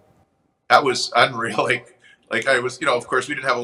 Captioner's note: chuckles